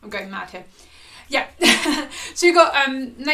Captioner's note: chuckles